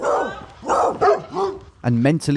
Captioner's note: woman shouting